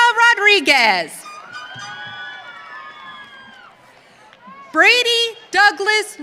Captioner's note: audience cheering